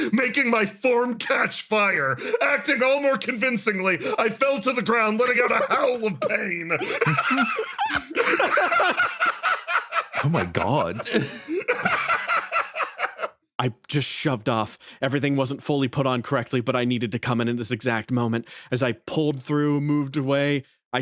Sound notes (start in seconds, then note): 7.0 laughs; 11.6 laughs